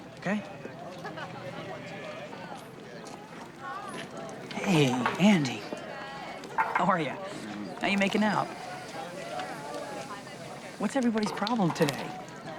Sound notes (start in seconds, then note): 1.1 crowd chatting; 7.8 keg fizzing